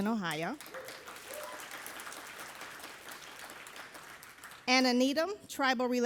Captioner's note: audience applauding